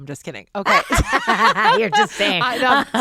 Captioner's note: both laughing